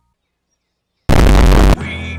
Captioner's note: distorted noise